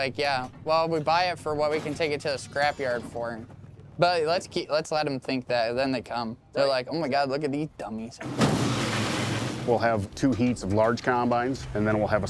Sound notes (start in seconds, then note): 8.2 combines crashing together